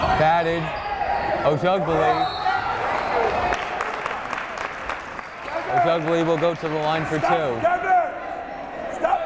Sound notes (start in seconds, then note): 3.2 clapping